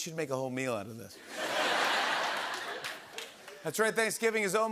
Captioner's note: laughter